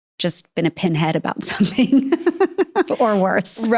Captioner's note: laughs